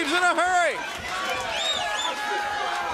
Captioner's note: crowd cheering